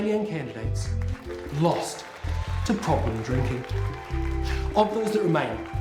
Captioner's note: loud clapping